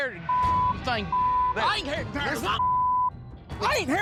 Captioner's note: swearing